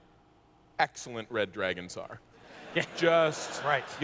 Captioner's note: laughter